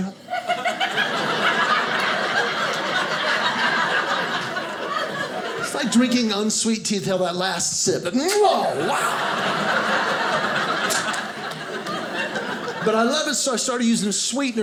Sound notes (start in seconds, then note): 0.2 audience laughing; 8.6 audience laughing